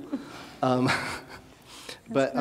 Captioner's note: chuckling